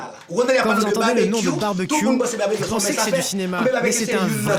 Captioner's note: French spoken audio